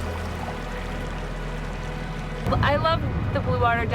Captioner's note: ocean waves lapping